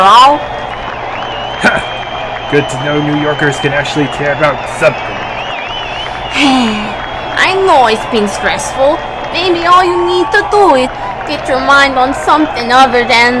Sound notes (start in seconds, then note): 5.9 l sighs